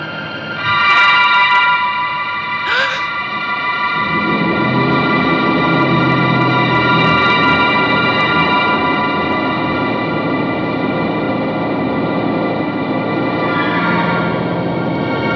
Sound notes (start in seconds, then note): 2.6 gasps; 3.8 engine accelerating